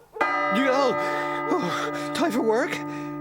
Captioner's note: clock Chimes